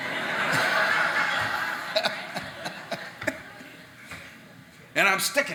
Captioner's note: audience laughing